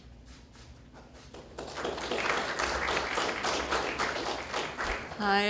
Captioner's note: graduates Clapping